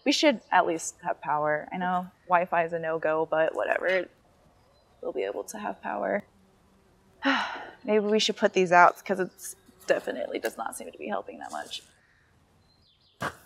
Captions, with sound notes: We should at least have power. I know Wi-Fi is a no-go, but whatever, we'll be able to have power. (sighs heavily) Maybe we should put these out 'cause it definitely does not seem to be helping that much.